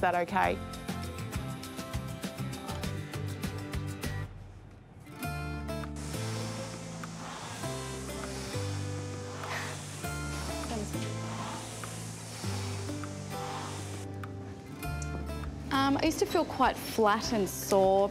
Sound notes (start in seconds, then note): 5.9 machine whirrs